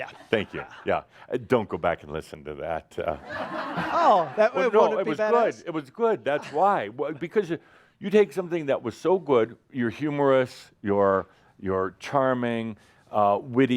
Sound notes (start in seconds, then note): 3.1 laughter